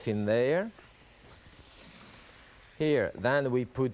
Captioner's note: pan sizzling